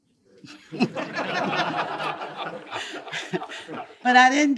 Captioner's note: attendees laugh